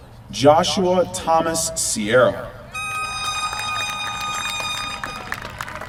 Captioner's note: applause